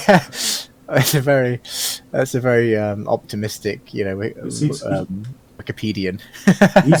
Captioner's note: laughing